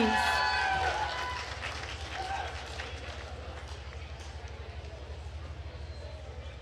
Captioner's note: attendees cheering and applauding